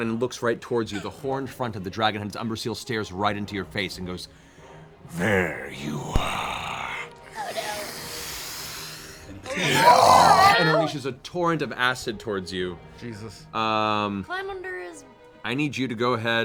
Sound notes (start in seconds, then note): 6.1 draws in breath, exhales